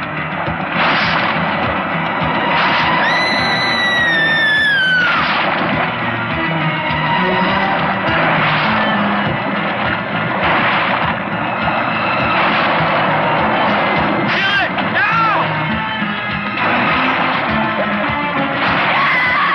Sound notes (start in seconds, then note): 0.1 tense music; 3.0 screaming; 6.0 tense music; 8.7 splashing; 16.1 tense music; 18.9 screaming